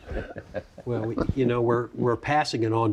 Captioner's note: panel members laugh